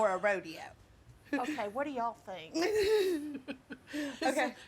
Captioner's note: laughs